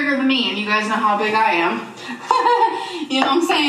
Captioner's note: laughing